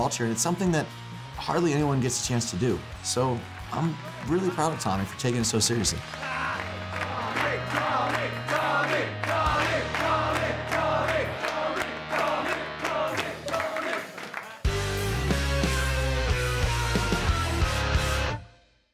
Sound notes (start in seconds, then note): 6.4 chanting "tommy!"